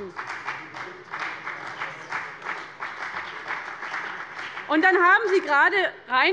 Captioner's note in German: Beifall bei dem BÜNDNIS 90/DIE GRÜNEN und der CDU